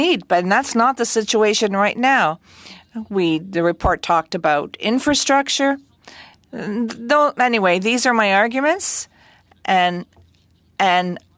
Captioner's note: speaking French